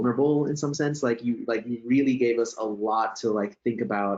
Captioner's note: laughs